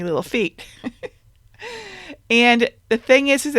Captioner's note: chuckling